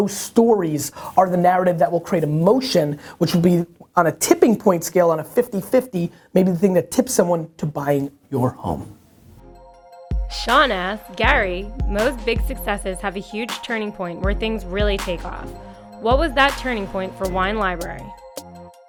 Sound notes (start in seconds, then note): 9.6 voiceover